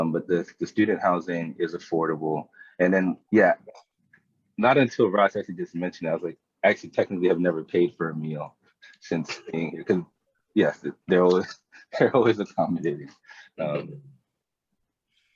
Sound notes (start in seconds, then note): 11.1 chuckles